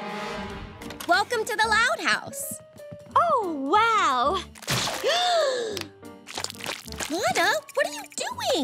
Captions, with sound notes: Welcome to the Loud House. Oh, wow. [gasping] Lana, what are you doing?!